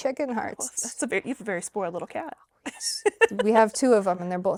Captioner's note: laughs